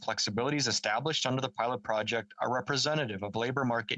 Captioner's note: speaking French